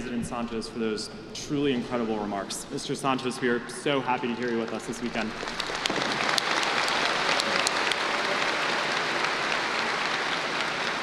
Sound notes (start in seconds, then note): 4.2 applause